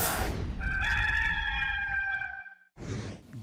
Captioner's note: rooster crowing